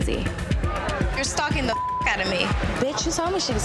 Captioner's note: beep